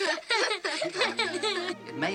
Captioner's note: giggles